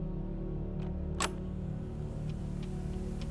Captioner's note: clicking of machine